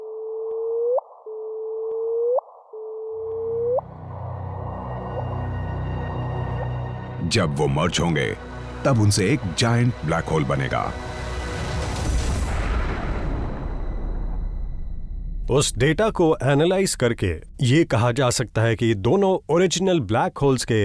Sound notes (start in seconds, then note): 0.1 increasing pitch; 2.5 repeating noise with increasing pitch; 2.6 increasing pitch